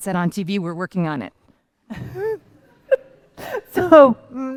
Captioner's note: laughter